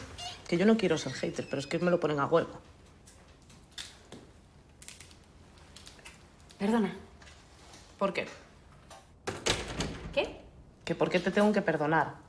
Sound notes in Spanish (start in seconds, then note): none